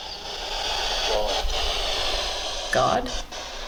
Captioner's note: spirit box voice